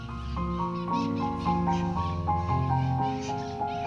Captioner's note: birds chirping